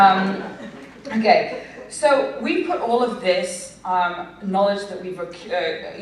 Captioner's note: laughter